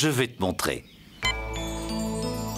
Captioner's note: beep!